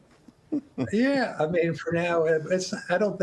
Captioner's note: laughter